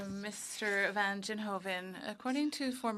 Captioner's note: speaking French